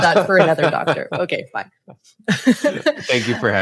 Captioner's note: laughs